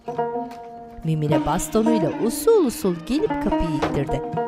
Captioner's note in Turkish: Kapı gıcırdama sesi; Kapı kapanma sesi